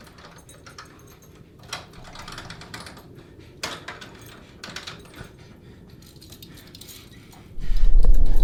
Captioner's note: keys jingling and turning in keyhole